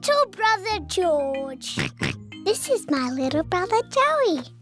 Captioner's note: oinks